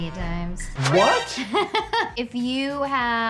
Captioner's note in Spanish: se ríe